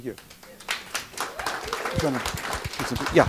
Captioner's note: clapping